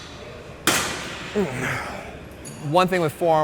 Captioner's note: metal clanging